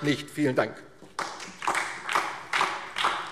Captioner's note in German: Beifall DIE LINKE und vereinzelt SPD